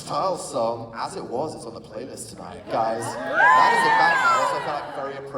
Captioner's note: applause